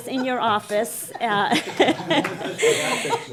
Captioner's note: laughing